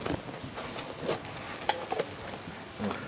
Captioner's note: rustling, clattering